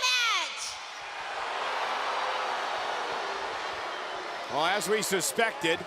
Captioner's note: crowd boos